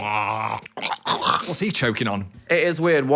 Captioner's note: Dan chocking